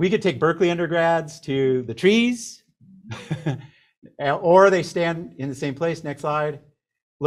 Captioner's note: chuckles